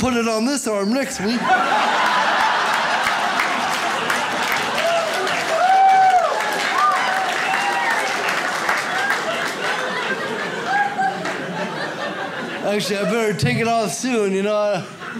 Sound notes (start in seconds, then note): 1.2 audience laughs; 5.3 audience applauds